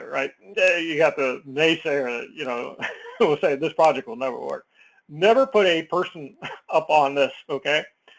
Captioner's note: laugh; laugh